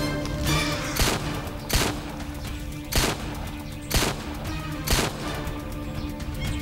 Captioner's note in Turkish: Silah sesi